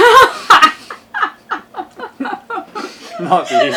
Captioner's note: laughing